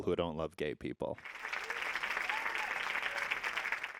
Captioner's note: audience applauding